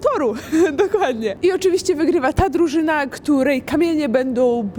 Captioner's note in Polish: śmiech